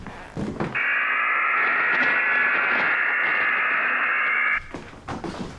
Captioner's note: buzzing